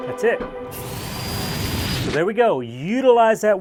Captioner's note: saw whirring